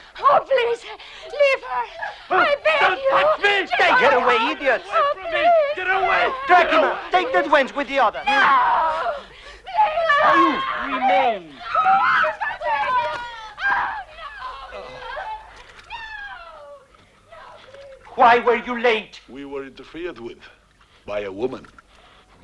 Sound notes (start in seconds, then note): 8.2 screaming; 14.0 women screaming